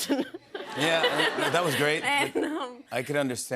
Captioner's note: laughter